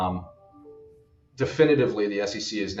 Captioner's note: computer chiming